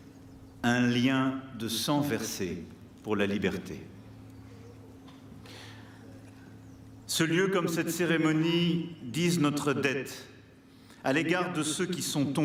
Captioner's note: speaking french